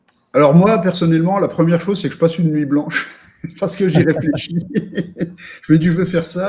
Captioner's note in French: rires